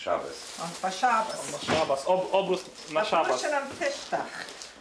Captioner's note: speaking Polish